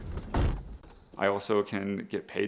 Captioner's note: car door shuts